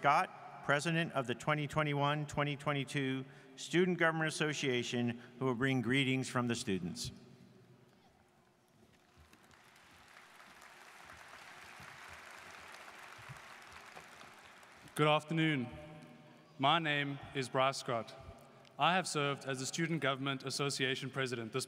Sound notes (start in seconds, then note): 9.0 students applauding